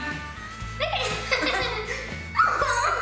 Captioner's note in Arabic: ضحك